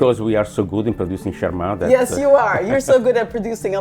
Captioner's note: chuckles